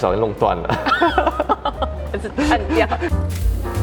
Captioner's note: laugh